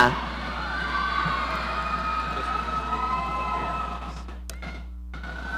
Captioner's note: audience cheering